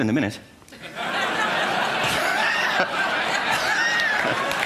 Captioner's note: laughter